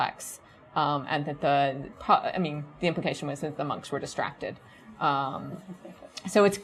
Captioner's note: chuckles